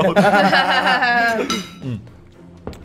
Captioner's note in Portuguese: risada; risadas